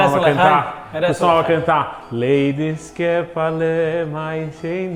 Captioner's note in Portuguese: cantarolando em Yidish